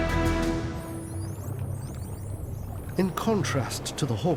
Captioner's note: dolphins squeaking